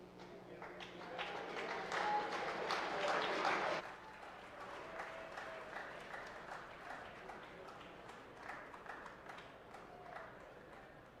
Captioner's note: applause